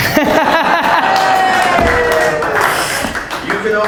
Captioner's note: laughter